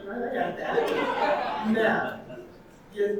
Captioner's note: audience laughing